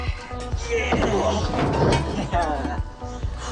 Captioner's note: grunting